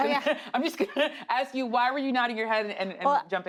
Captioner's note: laughs; laughs